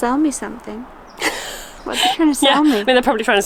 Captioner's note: laughs